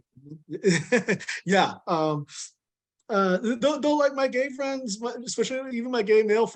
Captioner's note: chuckles